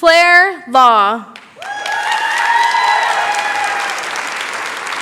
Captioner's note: cheering, applause